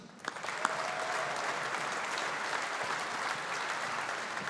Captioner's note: audience applauding